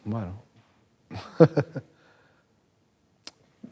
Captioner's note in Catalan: ríe